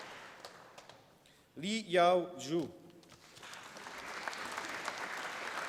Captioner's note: applause